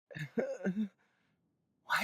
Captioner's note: nervous laughter